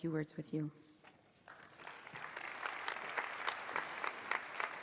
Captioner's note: applause